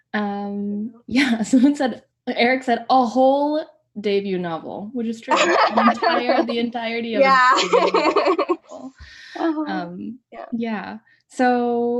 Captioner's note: laughter